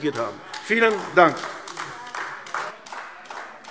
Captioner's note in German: Beifall AfD